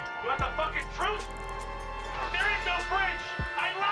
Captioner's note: faint background TV